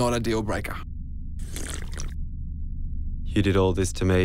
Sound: slurps

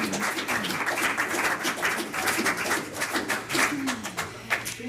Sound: applause

